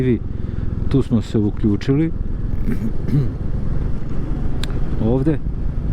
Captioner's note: coughs